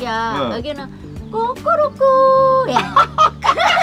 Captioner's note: mimicking chicken sound